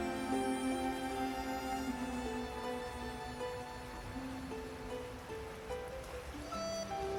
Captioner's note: light orchestra music; running water; reflective orchestra music